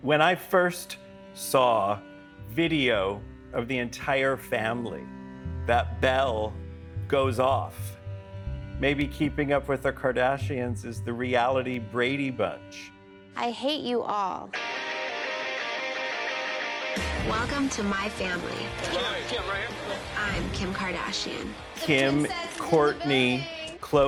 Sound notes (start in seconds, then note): 12.1 soundbite of tv show, "keeping up with the kardashians"